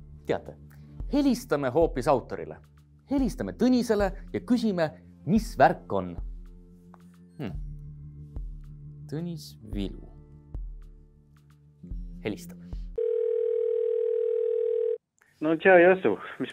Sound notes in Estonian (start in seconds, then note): 13.0 Telefoni kutsumise hääl